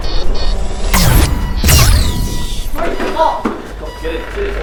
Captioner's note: gun firing